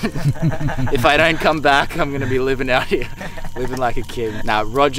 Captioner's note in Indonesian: laugh